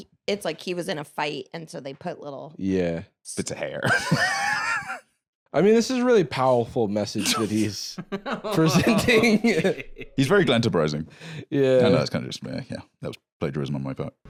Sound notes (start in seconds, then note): 4.7 laughs; 7.2 laughing